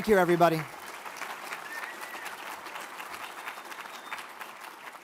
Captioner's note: audience applauds